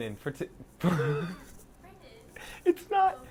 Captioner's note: laughter